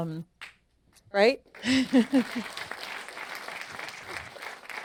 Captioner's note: audience applauding; chuckling